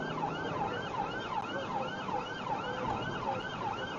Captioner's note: engine accelerating; police car siren